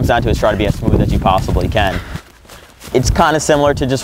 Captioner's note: panting, running